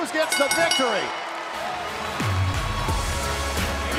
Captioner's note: bell ringing